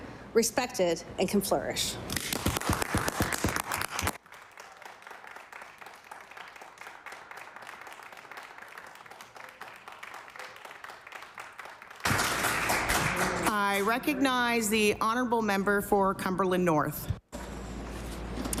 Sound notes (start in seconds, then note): 6.9 applause